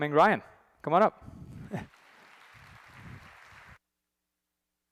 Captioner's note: applause